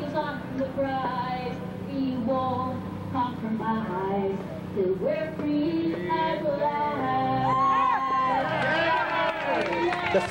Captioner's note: singing; cheers